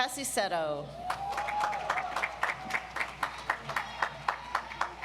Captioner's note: audience applauds